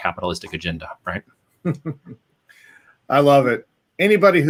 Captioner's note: laughs